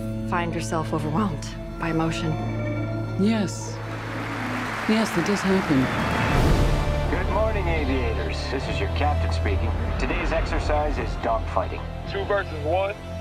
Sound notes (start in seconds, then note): 6.9 audience applause